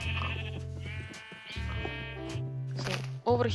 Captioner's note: MORE sheep sounds